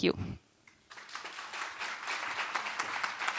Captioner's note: applause